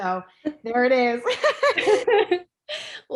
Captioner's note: laughing